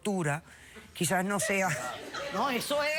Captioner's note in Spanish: risas